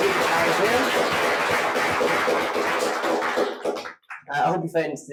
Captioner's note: all applauding